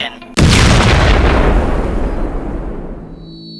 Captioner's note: missile blast